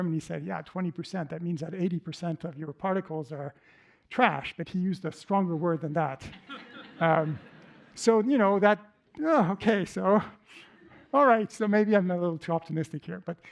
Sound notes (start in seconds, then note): 5.4 laughter